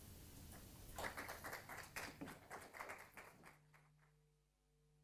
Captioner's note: applause